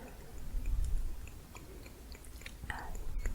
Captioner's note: tongue clicking